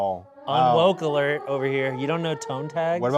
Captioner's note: alarms blaring